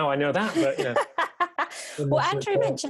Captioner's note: laughs